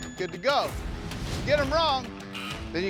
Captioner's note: buzzer sounds